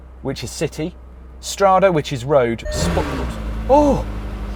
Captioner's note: sudden rev